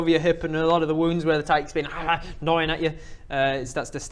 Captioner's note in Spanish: awrgrr